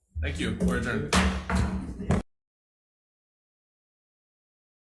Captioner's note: gavel thudding